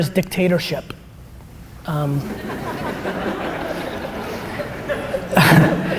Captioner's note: audience laughter